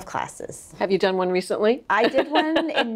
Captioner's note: laughing